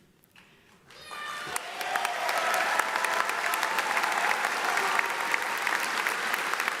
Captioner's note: audience applauds; audience cheers